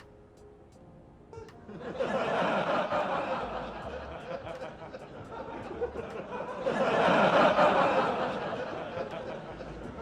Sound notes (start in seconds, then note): 1.7 audience laughing